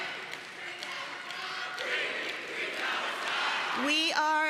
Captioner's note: chanting continues